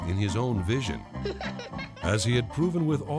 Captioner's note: laughing